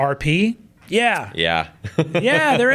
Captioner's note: chuckles